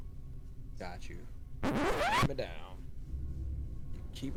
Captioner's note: random Record Scratch?